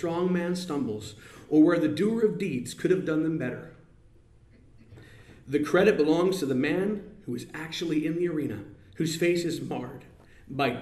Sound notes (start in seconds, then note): none